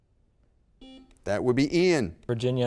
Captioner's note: buzzer beep